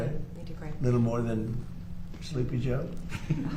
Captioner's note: laughter